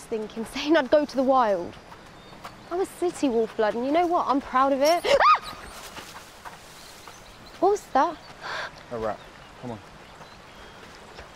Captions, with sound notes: I don't know what I was thinking, saying I'd go to the wild. I'm a city Wolfblood, and I'm proud of it. [screams] -What was that? -A rat. Come on.